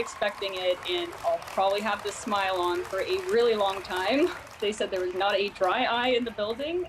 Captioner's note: cheers and applause